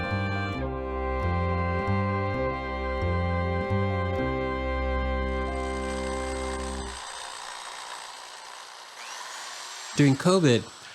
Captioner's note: drill whirring